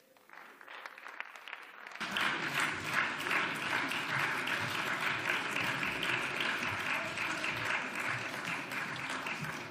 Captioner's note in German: Beifall